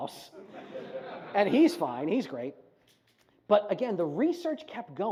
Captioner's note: audience laughs